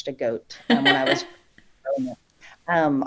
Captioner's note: laughs